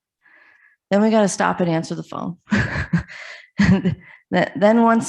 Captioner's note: chuckles